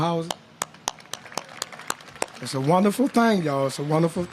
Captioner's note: applause